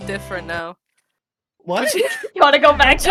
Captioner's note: laughs